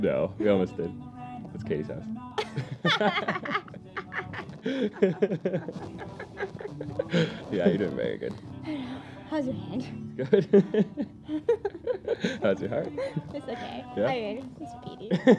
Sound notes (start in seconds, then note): 2.4 laugh